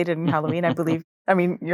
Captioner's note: laughs